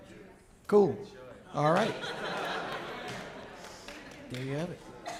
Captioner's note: audience laughing